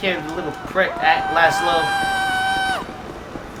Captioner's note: man screaming in the audience